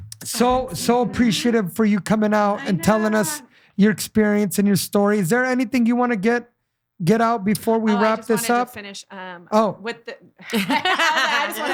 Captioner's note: laughing